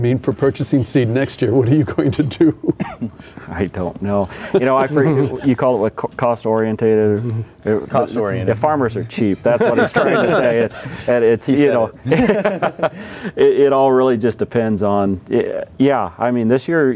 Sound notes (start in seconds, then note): 2.0 laughing; 4.4 laughing; 9.4 laughing